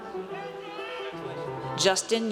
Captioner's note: audience cheers